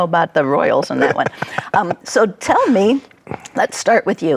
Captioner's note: laughs